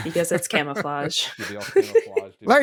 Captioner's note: laughter